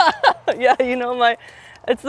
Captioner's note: laughs